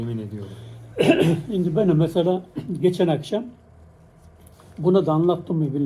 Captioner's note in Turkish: boğazını temizler